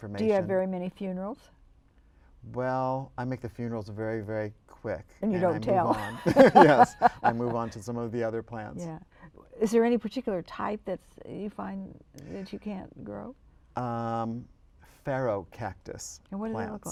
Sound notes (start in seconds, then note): 5.8 laughter